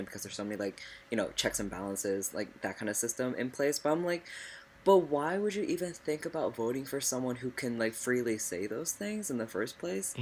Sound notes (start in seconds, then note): none